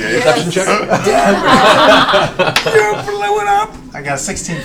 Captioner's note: all laugh